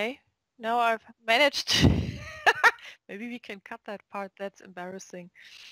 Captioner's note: laugh